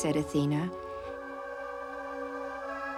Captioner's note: lady breathing heavily